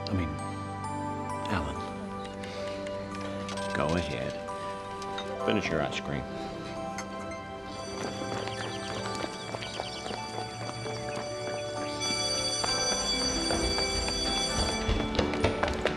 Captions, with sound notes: I mean, Alan. - Go ahead. Finish your ice cream. (school bell ringing)